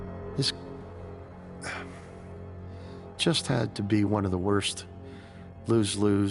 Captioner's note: sighing